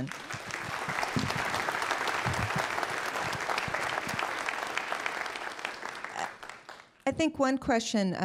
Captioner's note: applause